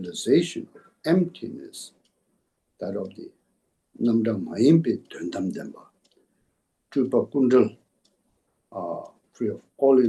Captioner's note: tibetan